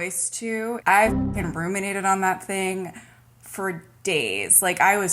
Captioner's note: boing sound